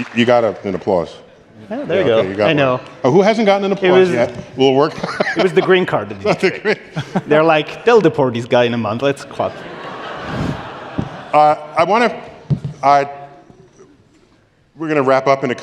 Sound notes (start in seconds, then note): 4.9 laughter; 9.4 laughter